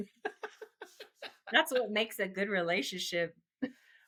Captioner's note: laughs